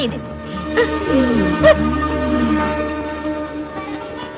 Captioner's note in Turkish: herkes şaşkinlik ve hayranlik sesleri̇ çikarir